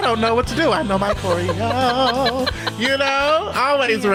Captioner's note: laughs